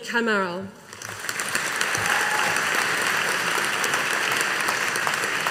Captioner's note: audience applauding